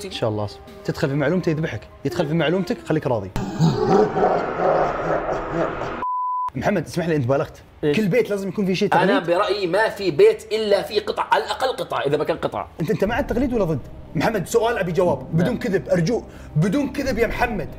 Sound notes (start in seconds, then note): 3.4 evil laughter